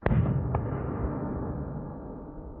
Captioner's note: explosion